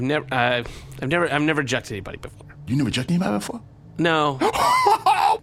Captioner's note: sighs; boisterous laugh